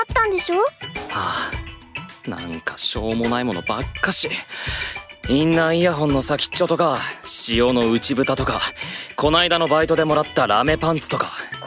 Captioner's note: sigh